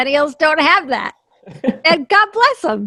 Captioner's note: laughs